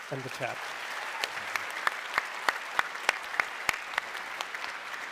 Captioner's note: applause